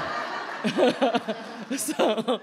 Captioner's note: laughter